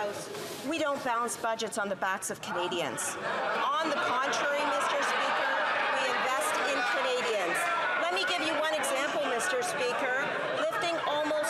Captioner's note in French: voix de l'interprète